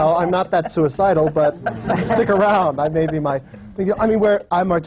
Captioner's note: laughter